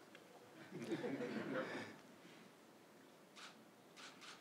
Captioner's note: crowd laughing